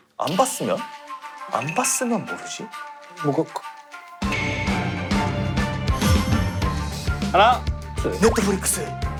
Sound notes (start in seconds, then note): 6.0 heart races